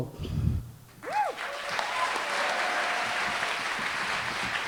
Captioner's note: cheering, applause